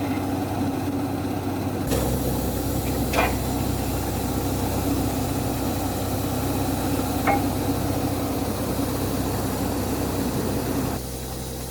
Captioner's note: drilling machine sound